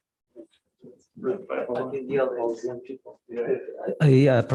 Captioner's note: background chatter